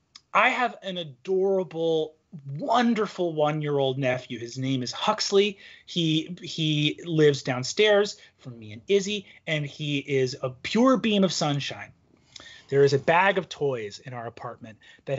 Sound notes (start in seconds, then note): none